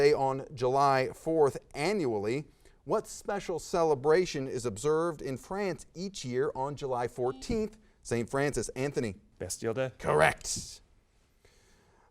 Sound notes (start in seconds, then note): 7.3 buzzer beeps